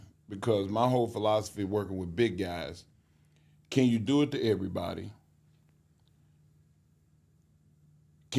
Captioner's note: none